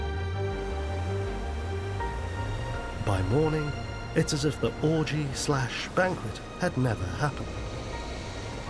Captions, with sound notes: (waves crashing) By morning, it's as if the orgy slash banquet had never happened.